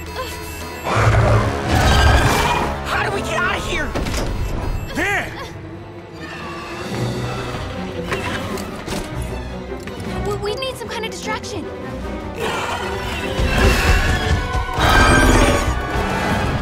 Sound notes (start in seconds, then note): 0.6 screeching; 12.4 screeching